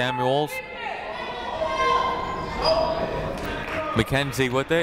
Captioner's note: people shouting in the crowd